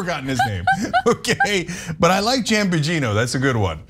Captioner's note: laugh